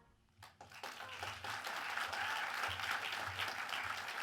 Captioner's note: audience applauds